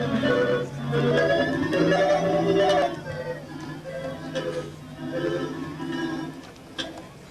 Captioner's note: time travel noises